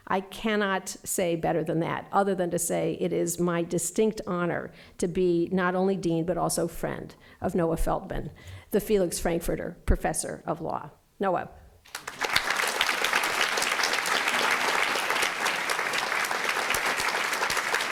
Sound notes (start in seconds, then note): 11.8 applause